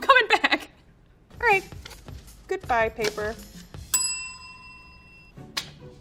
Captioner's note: bell rings